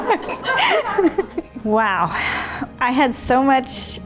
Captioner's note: audience gasping